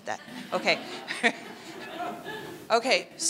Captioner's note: laughing